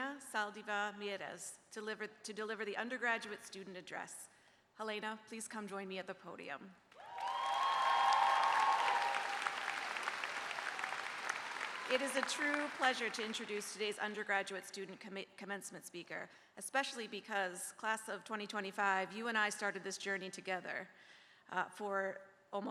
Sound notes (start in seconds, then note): 9.3 cheers and applause